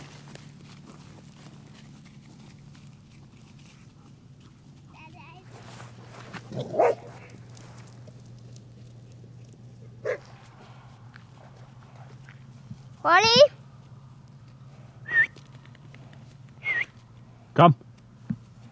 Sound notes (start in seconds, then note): 6.4 dogs barking; 16.6 whistles